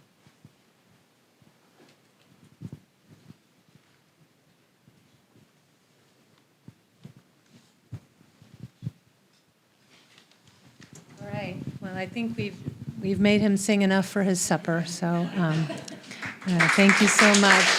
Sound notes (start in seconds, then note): 15.2 applause and Laugh